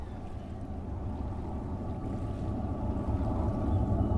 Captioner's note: low rumbling